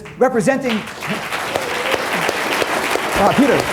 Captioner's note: applause